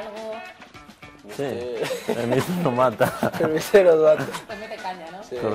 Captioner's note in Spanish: risas